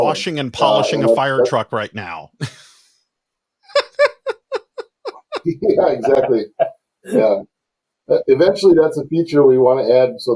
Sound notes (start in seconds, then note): 3.7 laughs